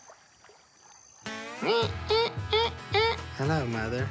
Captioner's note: imitates psycho theme